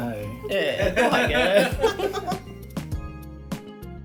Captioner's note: moments of laughter